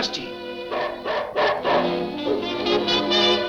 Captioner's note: dog barks; dramatic music continues